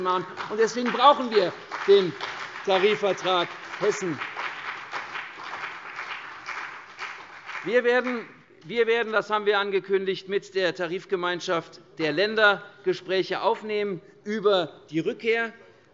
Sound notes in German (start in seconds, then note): 4.5 Beifall CDU und BÜNDNIS 90/DIE GRÜNEN